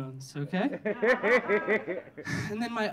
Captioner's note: audience laughing